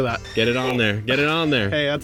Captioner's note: kettle whistling